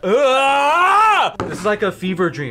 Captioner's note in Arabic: يصرخ